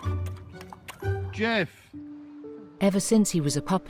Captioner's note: Jeff lapping